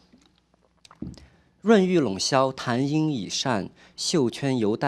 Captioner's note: speaking chinese